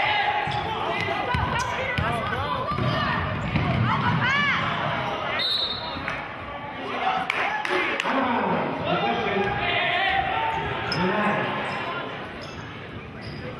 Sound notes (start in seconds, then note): 0.2 yelling; 5.4 whistling